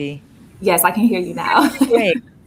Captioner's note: laughs